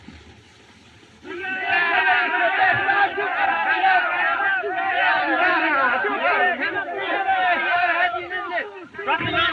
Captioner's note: commotion